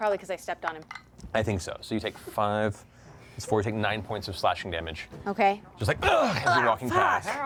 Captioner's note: pain sound